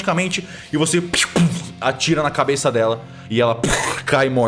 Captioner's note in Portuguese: pew pow